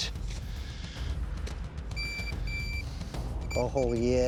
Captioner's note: beeping